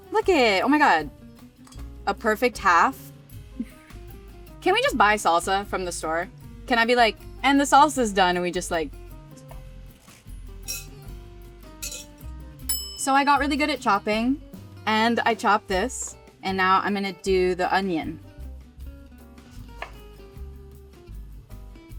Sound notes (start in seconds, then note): 9.9 jazzy piano music; 12.6 bell dings; 18.9 chill jazzy music